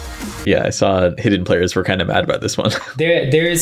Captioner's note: chuckles